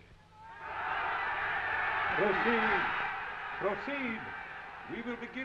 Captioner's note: crowd cheering